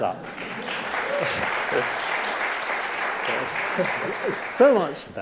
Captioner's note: audience clapping